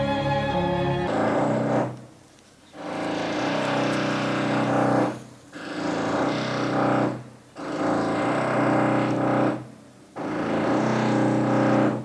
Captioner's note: loud drilling